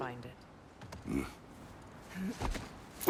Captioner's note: grunt